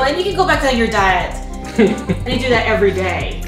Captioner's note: laughter